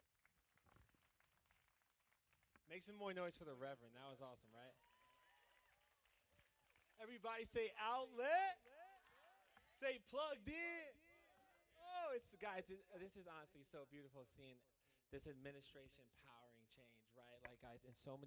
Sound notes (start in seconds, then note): 0.0 applause